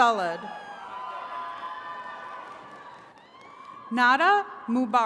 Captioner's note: attendees cheering